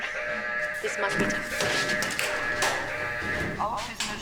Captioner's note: alarm ringing